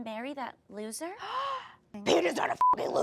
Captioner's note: D**ked-Down Ariana gasps; beep